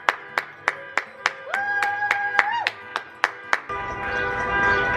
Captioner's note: clapping